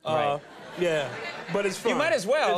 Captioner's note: audience laughing